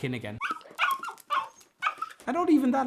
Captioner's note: puppy barking